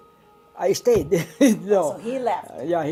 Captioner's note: laughs